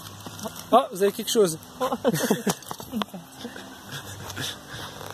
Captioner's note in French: rires